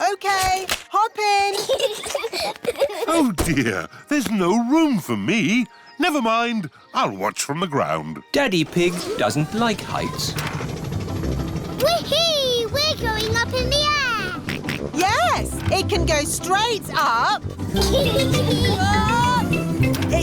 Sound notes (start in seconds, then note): 1.5 peppa and george giggling; 14.7 snorts; 17.7 kids giggling